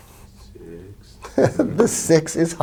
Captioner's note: giggling